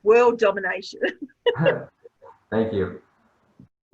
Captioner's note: laughing